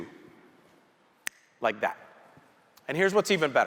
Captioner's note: snapping